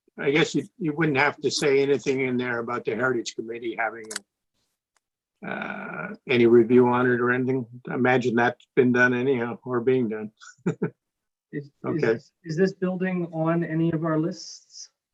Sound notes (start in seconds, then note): 10.5 councilor laughs